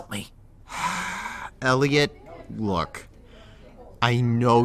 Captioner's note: sigh